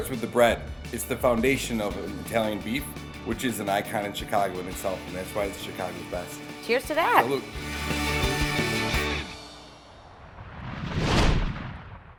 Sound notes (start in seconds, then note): 7.8 light music; 9.7 whooshing